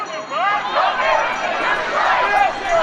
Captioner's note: crowd